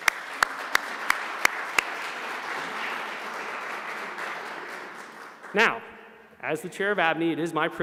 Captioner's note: applause